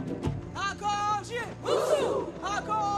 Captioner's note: all chanting